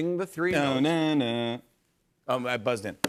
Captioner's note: Hums NBC tones